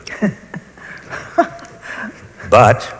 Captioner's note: laughs